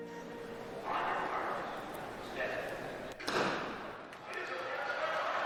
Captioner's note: fires starter gun; cheering